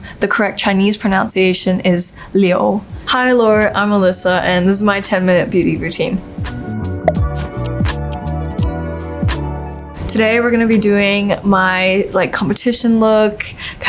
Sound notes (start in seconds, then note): 7.0 animation pops and ticks; 7.1 gentle music